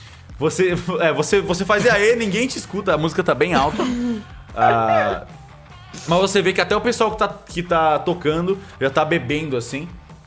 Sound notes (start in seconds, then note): 3.4 laughs